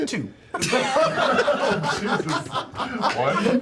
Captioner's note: laughter